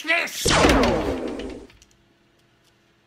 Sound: plasma blast

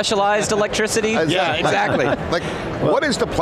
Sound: laughs

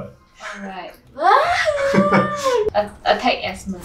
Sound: frustrated squeal

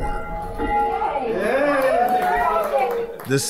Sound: bell ringing and cheering

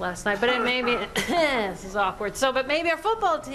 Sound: clears throat

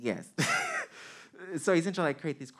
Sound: man chuckling

